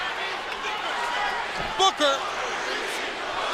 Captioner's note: crowd chatter